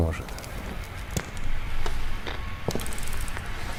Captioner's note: footsteps